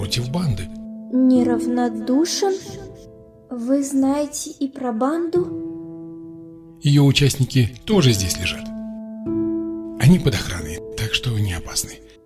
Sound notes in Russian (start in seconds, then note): none